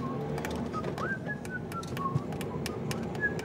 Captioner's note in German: pfeift